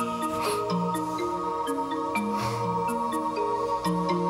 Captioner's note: exhales sharply; exhales sharply